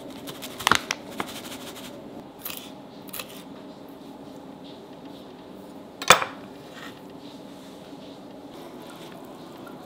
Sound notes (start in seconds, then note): 2.5 knife chopping